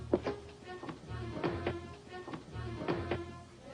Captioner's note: footsteps